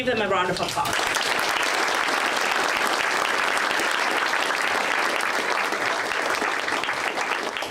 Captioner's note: audience applause